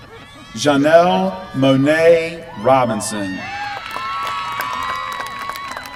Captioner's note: applause